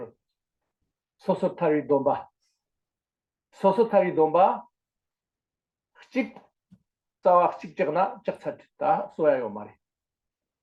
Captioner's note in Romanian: în tibetană